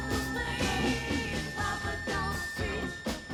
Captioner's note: sound system feedback